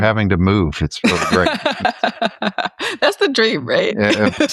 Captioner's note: chuckles